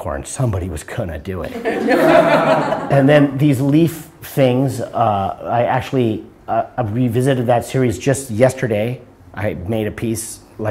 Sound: laughter

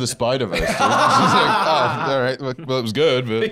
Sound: laughing

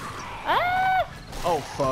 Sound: yells

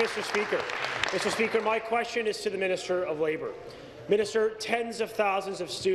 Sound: applause

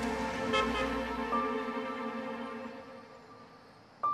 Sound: car horn honking

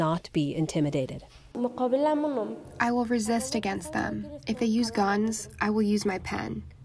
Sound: through translator

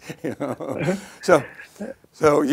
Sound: laughs

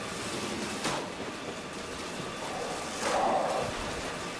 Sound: none

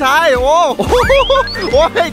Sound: laughs

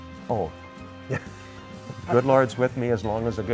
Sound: chuckles

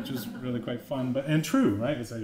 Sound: laughter

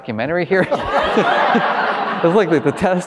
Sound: all laughing

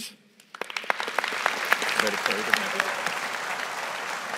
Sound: audience applauding

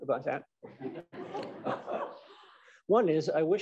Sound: laughter

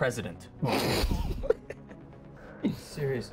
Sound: laughs hard

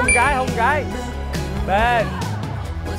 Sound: the parents are chanting enthusiastically

